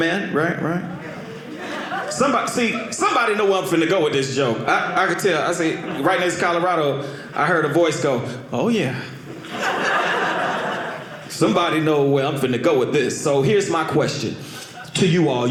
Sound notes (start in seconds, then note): 9.2 audience laughing